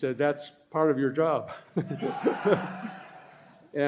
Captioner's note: laughter